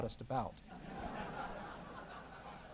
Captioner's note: laughter